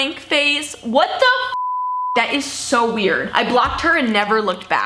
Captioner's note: beep